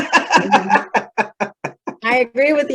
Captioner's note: laughter